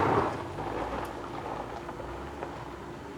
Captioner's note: none